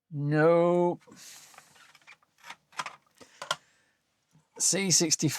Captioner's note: keyboard Clattering